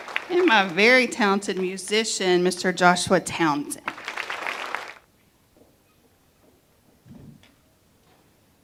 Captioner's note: applause